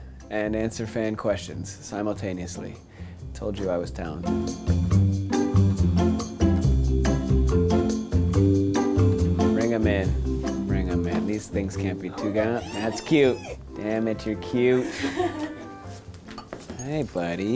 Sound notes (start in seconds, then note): 5.3 playful music; 14.8 laughing